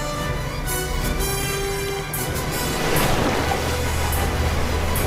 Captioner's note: galley hums